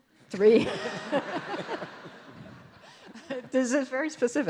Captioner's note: audience laughs